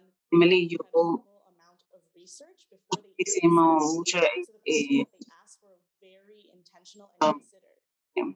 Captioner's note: speaking Spanish